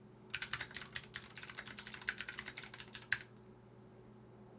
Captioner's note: computer keys clicking